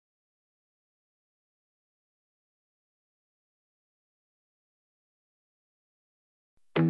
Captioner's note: silence